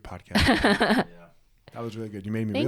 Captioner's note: laughs